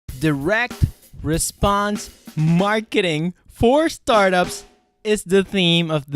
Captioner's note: voiceover